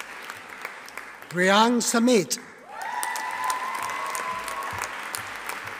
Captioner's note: audience applauding